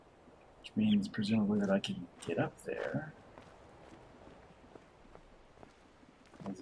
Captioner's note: bird chirps high-low